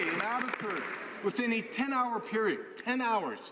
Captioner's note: some Applause